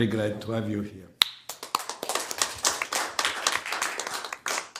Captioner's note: applause